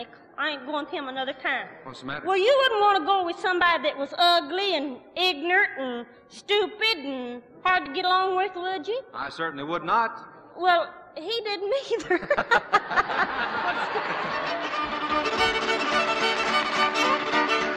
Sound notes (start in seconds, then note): 11.9 laughs; 12.0 both laughing